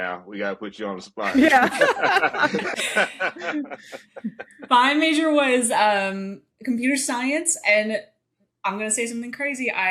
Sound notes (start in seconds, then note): 1.2 all laughing